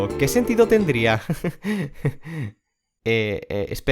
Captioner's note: intentional nervous laugh